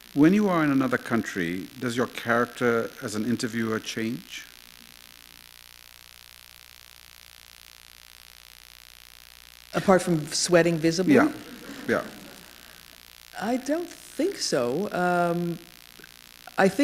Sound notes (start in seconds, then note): 5.8 pause; 11.4 laughter